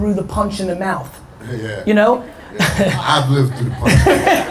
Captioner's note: chuckles